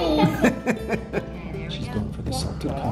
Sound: chuckling

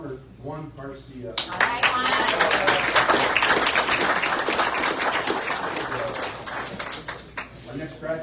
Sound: audience cheers and applauds

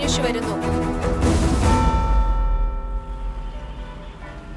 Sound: clock strikes

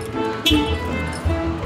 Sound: car beeps

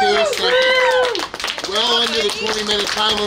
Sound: cheering and applauding

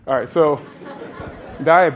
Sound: laughter

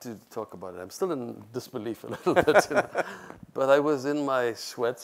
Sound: laughs

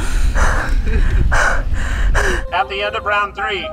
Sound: heavy breathing

